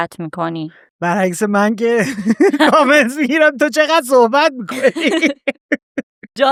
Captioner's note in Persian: خنده